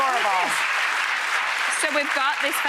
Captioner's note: audience applauds